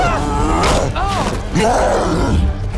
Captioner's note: roaring